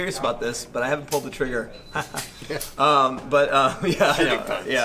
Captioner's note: laughs